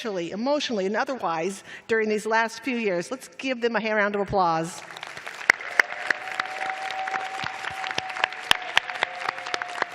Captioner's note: applause